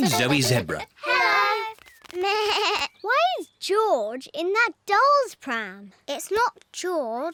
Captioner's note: bleats